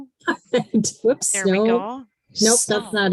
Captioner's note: laughs